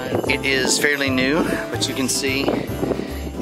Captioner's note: wind blowing